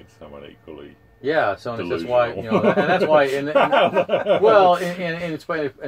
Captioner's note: laughter